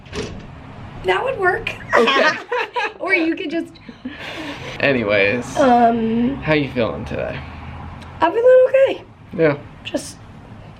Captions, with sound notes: That would work. Okay. [laughter] Or you could just [blows air] Anyways. Um. How you feeling today? I feel okay. Yeah. Just